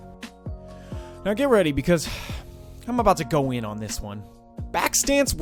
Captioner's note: sighs